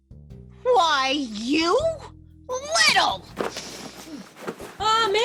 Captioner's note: commotion